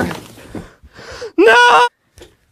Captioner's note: yelling